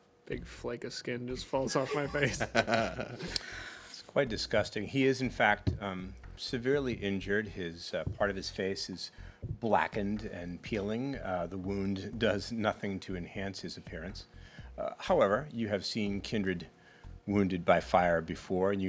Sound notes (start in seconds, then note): 1.7 laughing